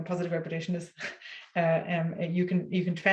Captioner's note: laughs